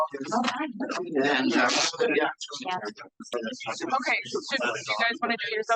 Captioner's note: participants chattering